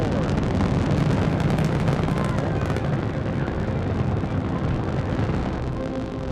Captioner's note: rocket roaring